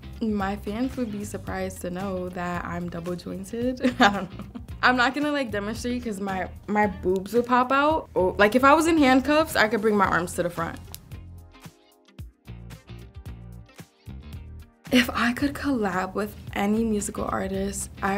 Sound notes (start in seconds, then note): 0.0 jazzy music; 3.8 chuckling; 11.4 jazzy music